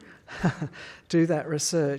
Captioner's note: laughs